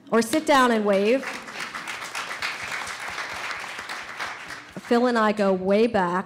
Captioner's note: audience applauds